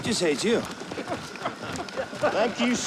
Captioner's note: soldiers chuckling